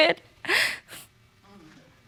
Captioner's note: sniffles